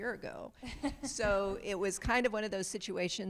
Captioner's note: audience member laughs